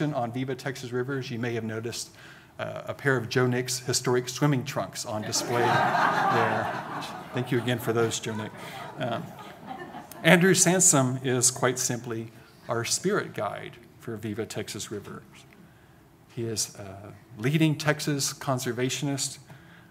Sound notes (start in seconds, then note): 5.2 audience laughing